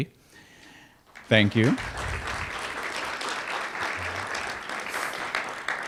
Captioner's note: applause